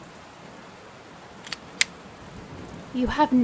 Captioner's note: rain splashing; gun clicking